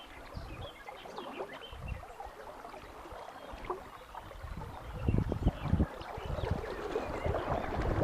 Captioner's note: birds singing